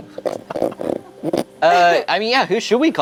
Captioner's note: snorting